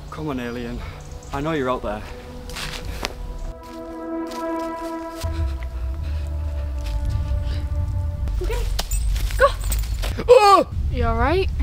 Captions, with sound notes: Come on alien... I know you're out there... (Twig Snapping) (Ominous Music) AHHH You alright?